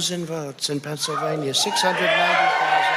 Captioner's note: cheers and applause